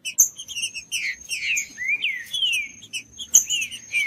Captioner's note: trinca ferro cantando